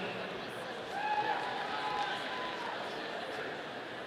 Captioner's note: audience cheering